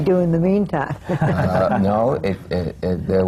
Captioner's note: laughter